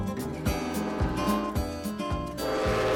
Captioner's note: train whistle blowing